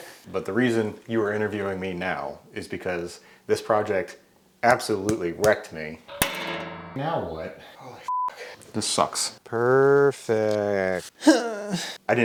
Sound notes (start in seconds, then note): 6.1 metal bangs; 8.1 beep; 11.2 grunts